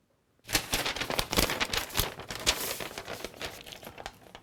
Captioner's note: loud rustling